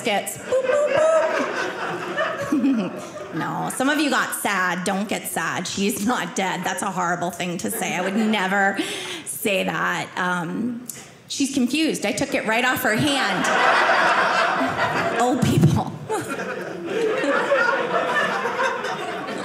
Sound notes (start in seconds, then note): 0.4 audience laughing; 13.1 audience laughing